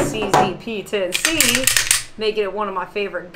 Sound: gun clicking noise

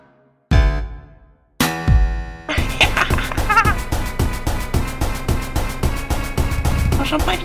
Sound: Смех

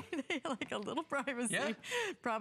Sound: laughter

